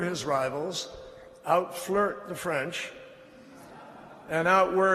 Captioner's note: laughter